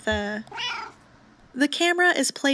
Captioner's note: meow